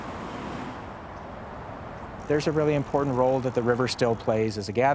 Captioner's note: car roaring